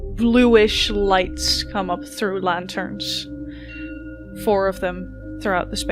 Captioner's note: bells chime